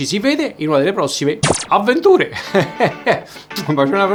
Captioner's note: laughter